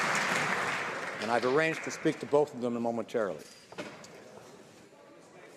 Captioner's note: applause